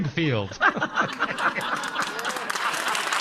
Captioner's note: laughing